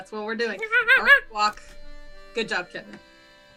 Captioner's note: monkey noises